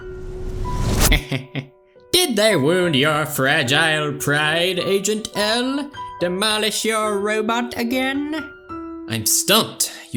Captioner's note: chuckles